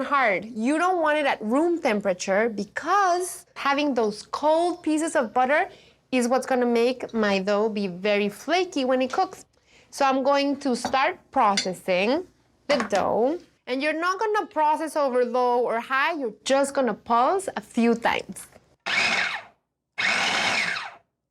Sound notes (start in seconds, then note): 19.9 food processor whirs